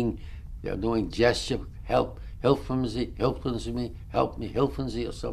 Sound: non-english

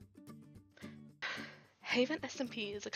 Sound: deep intake of breath

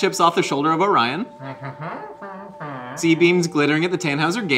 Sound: Glorp-Glorp exclaims

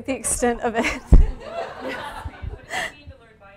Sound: audience laughing

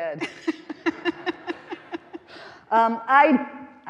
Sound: all laughing

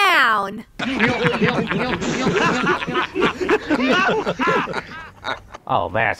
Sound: laugh

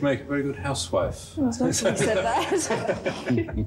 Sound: Charles laughing

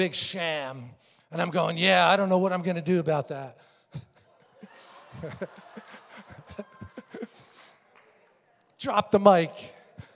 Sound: congregation laughing

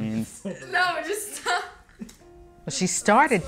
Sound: laughs

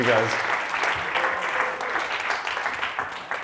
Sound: audience applauds

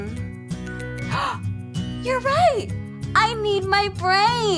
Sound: gasps

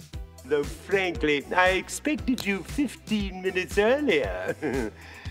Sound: laughs

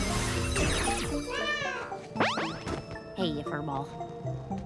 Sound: meowing

